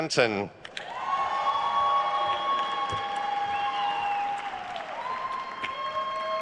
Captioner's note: attendees cheering and applauding